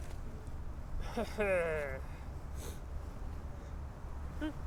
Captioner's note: Farley laughing